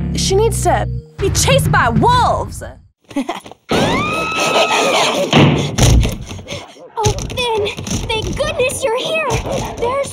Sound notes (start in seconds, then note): 3.8 Princess Bubblegum yelling